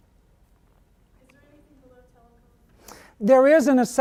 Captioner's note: voiceover